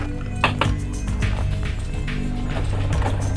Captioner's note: knocks